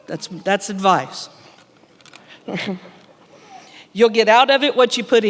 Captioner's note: chuckles